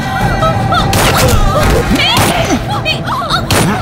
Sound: gunshot; gunshot

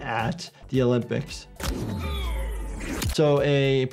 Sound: fighter groans

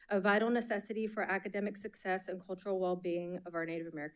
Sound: none

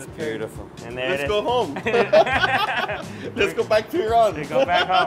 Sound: laughing

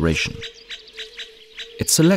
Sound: sounds of nature

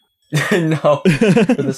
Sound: teehees

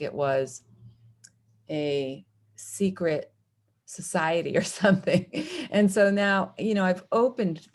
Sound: laughter

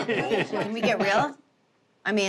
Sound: laughs

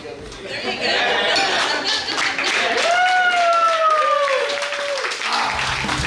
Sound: clappng & Cheering

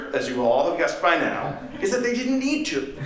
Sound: laughter

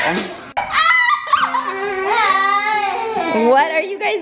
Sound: laughing and screaming

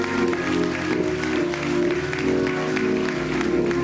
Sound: applause

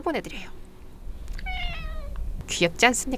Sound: meow

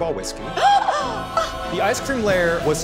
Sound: gasping

